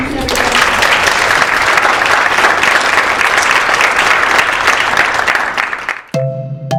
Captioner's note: applause